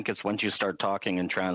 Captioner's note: speaking French